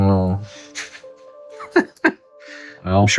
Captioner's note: laughing